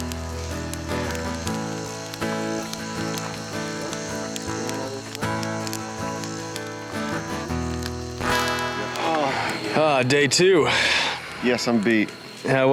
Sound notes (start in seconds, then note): 2.9 fire crackling